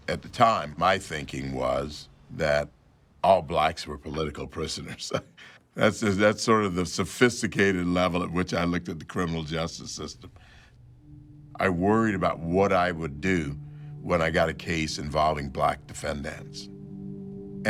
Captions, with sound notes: At the time, my thinking was that all Blacks were political prisoners, (chuckles) that's sort of the sophisticated level at which I looked at the criminal justice system. I worried about what I would do when I got a case involving Black defendants,